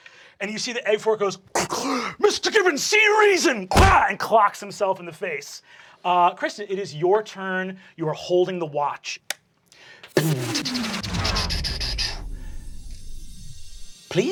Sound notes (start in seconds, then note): 1.6 gasping; 3.7 punching smack; 9.2 clicking; 10.2 mechanical whirring; 10.2 humming